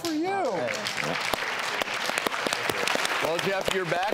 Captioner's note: applause